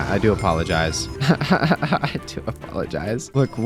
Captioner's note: laughs